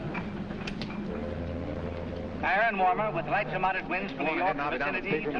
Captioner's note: weather forecast in background